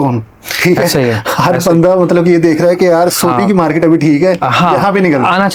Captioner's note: laughs